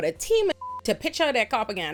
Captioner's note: beep